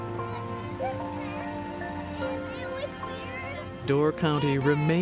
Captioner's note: children chattering excitedly